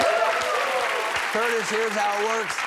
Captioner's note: cheers